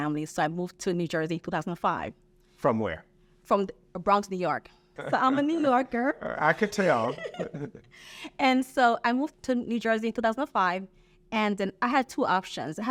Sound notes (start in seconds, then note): 6.3 laughs